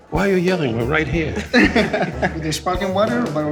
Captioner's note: laughing